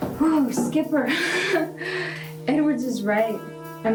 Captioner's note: Alice laughing